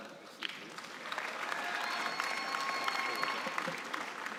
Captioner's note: cheering and applause